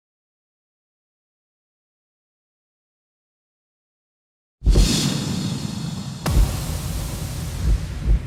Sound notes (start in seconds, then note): 6.2 fire roaring